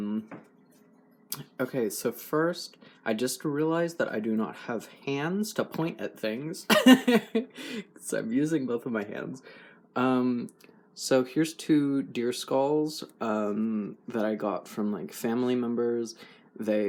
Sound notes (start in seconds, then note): 6.7 laugh